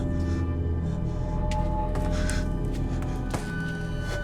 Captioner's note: footsteps